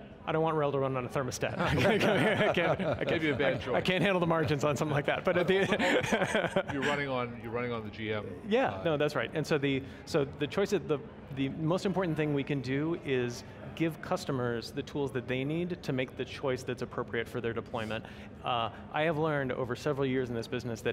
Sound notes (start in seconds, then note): 1.5 all laughing